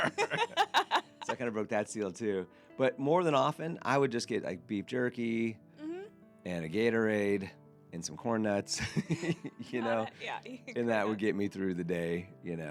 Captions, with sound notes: (laughing) So I kind of broke that seal too. But more than often, I would just get beef jerky, and a Gatorade, and some corn nuts. And that would get me through the day,